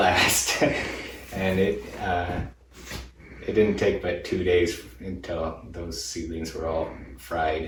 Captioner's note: laughs